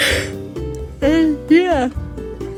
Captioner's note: more yawning